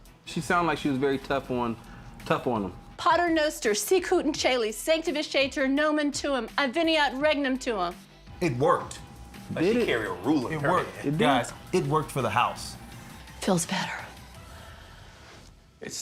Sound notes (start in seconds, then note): 2.9 non-english speech